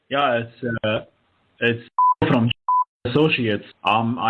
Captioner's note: beep